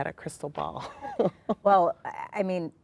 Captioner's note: laughs